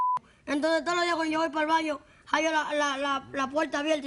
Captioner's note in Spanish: Bip